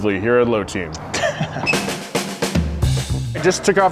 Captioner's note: laughs